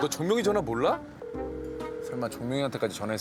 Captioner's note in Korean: 통화 연결음